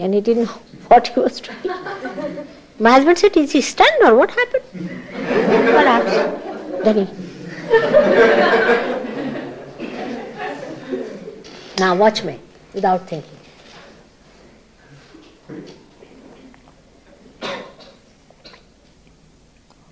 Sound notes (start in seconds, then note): 10.8 laughter